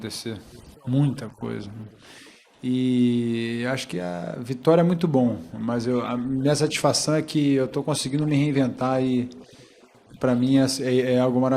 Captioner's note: speaking foreign language